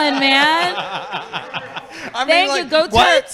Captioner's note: laughing